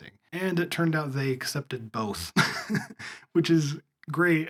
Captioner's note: laugh